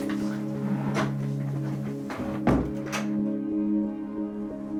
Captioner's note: door closes